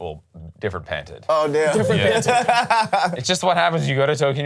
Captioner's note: laughs